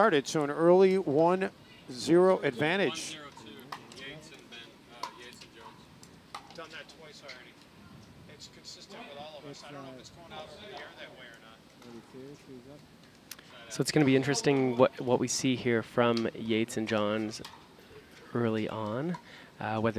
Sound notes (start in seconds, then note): 3.5 coaches talking